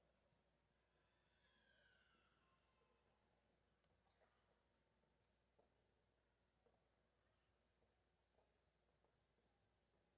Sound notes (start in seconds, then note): none